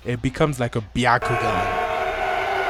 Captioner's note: ominous sound